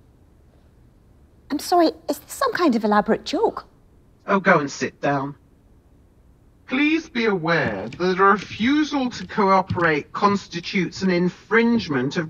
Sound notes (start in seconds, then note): 7.4 footsteps plodding